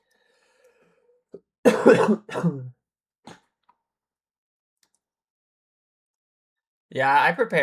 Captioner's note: cough and laughter